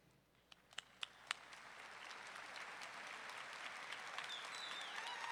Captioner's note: audience clapping; audience cheering